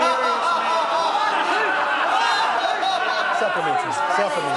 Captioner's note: laughter